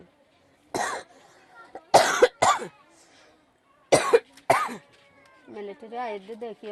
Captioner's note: coughs